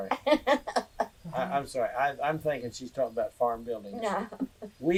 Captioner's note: laughter